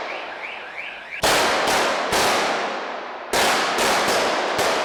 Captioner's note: car alarm blaring